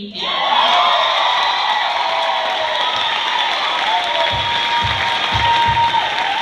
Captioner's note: cheers, applause